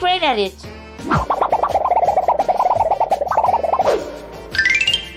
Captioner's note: wobbling noise